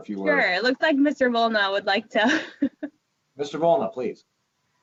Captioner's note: laughs